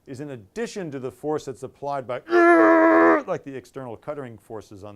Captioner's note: grunts